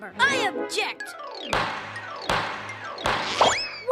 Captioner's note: gavel banging